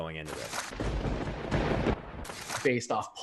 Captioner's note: thunder